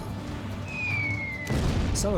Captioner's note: bomb whistling; explosion